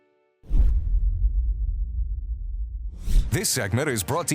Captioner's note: air whooshing